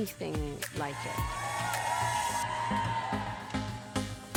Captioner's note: fans cheering